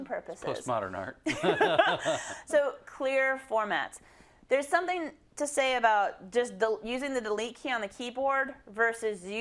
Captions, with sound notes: -It's post modern art. [LAUGH] -[LAUGH] So clear formats. There is something to say about using the Delete key on the keyboard versus